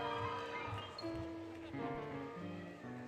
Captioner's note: applause, Cheering, Music; music, Laughter